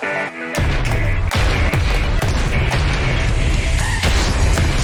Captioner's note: rapid explosions